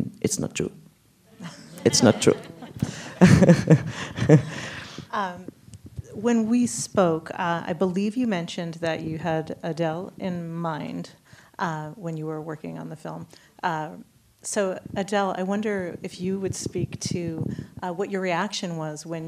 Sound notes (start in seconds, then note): 1.4 laughs